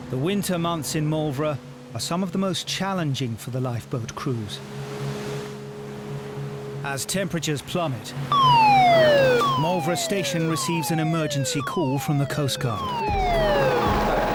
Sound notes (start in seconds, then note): 8.3 alarm blasts